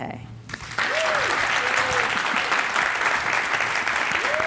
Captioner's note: audience applauding